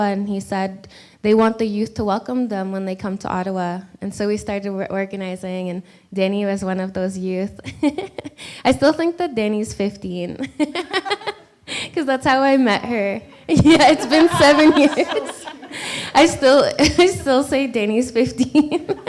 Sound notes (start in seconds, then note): 10.6 laughs